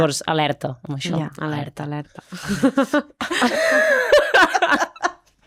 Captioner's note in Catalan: rialles